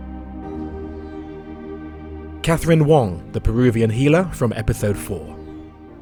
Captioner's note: voiceover